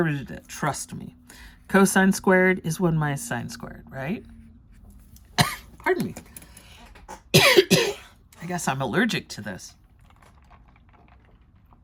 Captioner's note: coughs